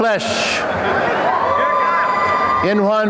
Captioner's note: applause and cheering